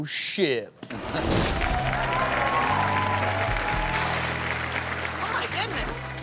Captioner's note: upbeat rock music; audience cheers